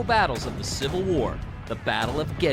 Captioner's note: cannons firing